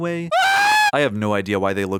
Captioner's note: screaming